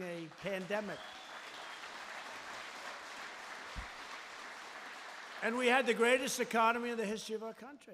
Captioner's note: applause